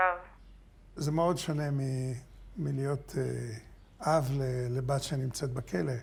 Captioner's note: speaking foreign language